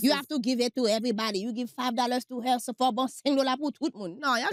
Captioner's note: speaks haitian